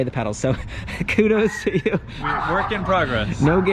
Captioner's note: laughing